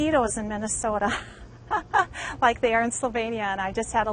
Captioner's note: laughs